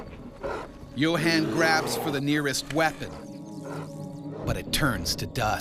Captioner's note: voiceover